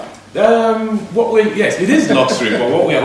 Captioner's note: laughs